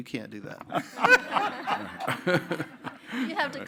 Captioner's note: panelists laughing